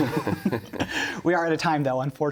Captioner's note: laughter